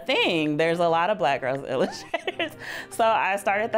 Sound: laughs

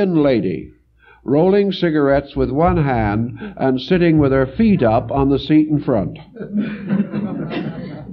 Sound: laugh

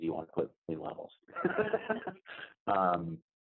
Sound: laughs

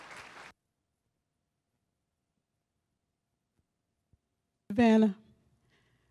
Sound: applause; silence

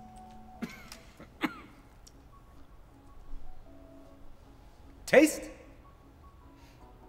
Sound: coughs

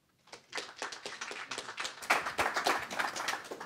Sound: applauding

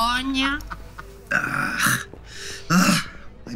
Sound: nurse groaning

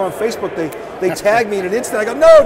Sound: laughing

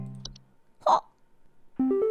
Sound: gnome sound

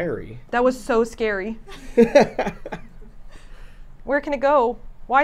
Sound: laughs

